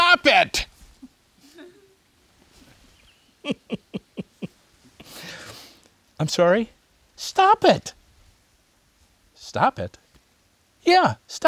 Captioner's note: laughs